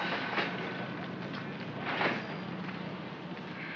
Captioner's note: cash register rings; drawer slides shut